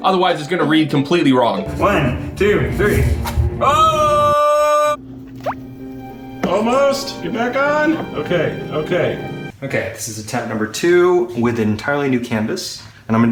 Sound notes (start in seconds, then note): 3.6 shrieks